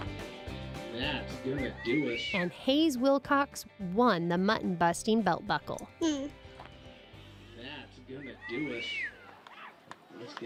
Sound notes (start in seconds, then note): 6.0 laughs